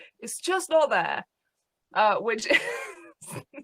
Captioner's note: laughs